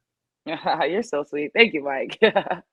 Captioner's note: chuckles